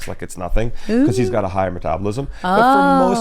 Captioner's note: chuckles